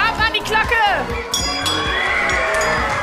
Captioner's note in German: Glocke läutet